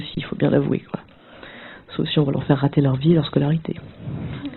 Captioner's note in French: rires